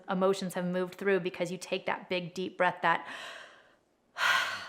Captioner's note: breathes